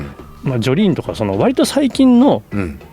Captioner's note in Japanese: 咳払い